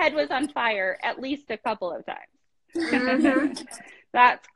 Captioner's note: laugh